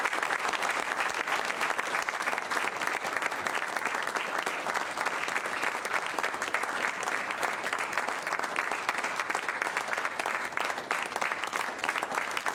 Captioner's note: applause